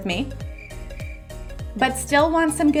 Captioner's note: cricket chirping